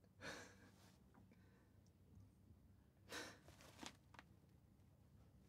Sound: laughs softly

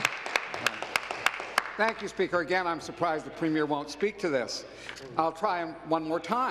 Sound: applause

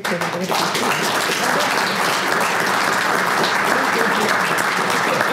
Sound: applause

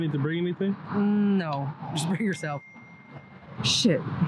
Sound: phone dings

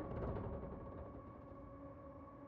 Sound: none

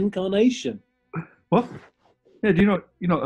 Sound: laughs

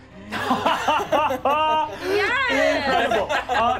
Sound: laughing

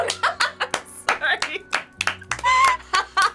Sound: both clap

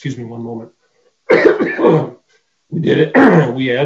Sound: coughing

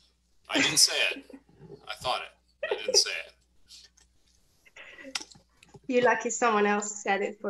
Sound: laughs

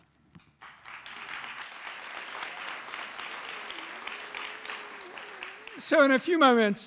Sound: applause

